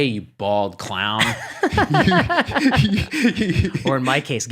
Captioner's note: laughs